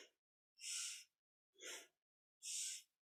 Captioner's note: breathes